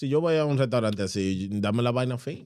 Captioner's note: speaking Foreign Language